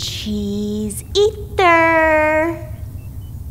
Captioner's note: Dutch accent